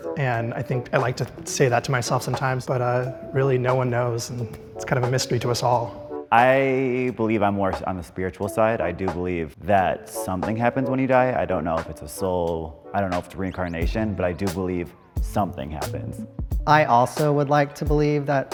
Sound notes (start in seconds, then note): none